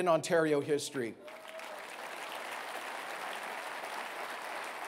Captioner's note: applause